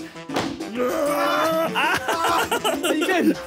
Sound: grunting

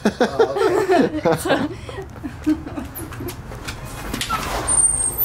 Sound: voiceover; laughter

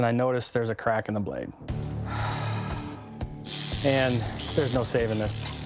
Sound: sigh

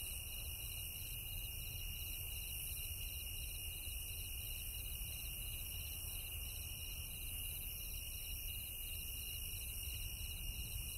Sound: crickets Chirping

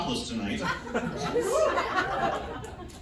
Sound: audience laughs

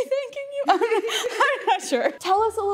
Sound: laughing

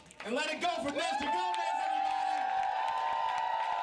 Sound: audience cheering

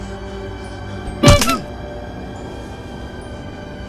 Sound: clown honk; wood breaks

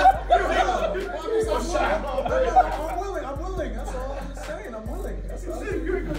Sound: laugh

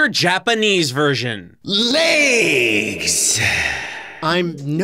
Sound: reverberating voice

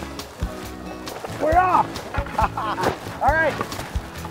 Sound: laughs

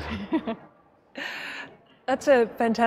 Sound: laughter

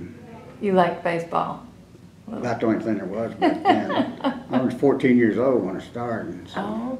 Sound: laughter

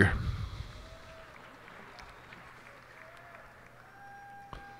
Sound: cheers and applause

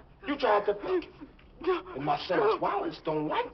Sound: gasping

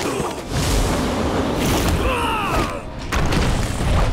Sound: grunting; grunting

